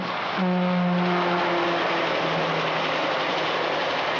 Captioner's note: train horn blaring; chugging